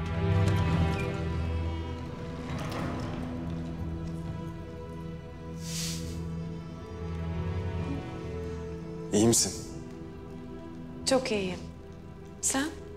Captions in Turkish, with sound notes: [Kapı kapanma sesi] İyi misin? Çok iyiyim. Sen?